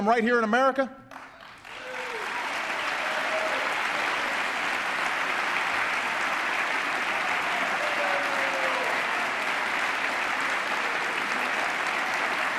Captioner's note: applause